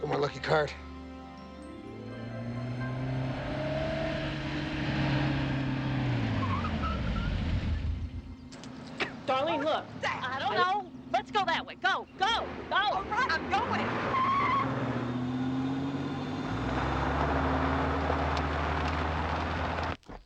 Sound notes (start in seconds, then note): 3.0 engine revving